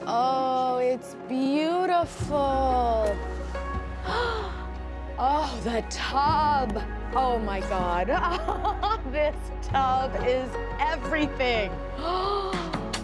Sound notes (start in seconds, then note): 4.0 gasps; 8.1 laughs; 11.9 slow rock music; 12.0 gasps